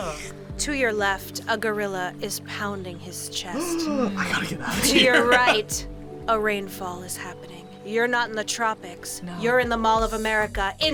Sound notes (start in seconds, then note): 3.6 gasps; 4.2 laughs